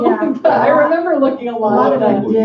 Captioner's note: laughs